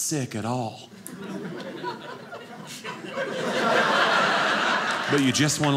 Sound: audience laughing

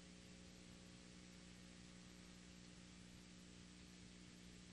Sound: none

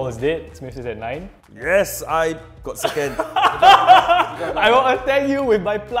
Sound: laughs

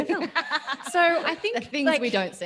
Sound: laughs

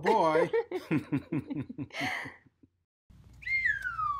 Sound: both laugh

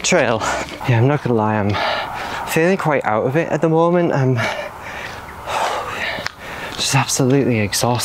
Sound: sigh

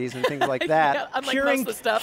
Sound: laughing

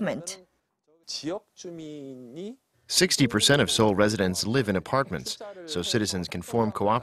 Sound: Korean

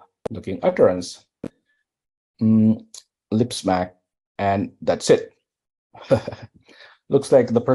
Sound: \{laugh\}

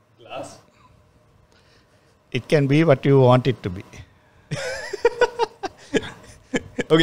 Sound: laughs

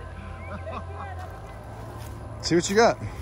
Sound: laughs

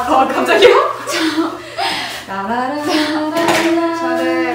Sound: chuckles

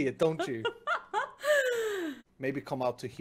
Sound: laughing

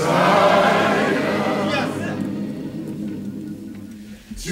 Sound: crowd exclaims

